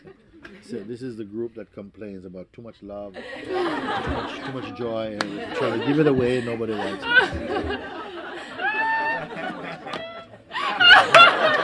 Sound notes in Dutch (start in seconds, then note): 9.9 gelach